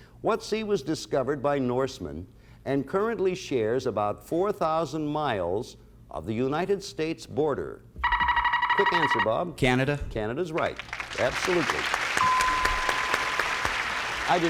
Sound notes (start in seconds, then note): 8.0 buzzer sounds; 10.5 applause; 12.2 bell rings